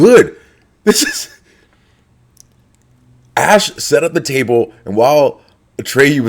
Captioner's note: laugh